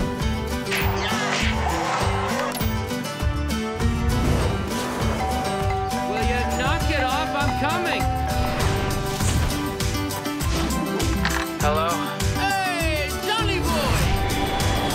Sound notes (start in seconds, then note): 5.2 doorbell ringing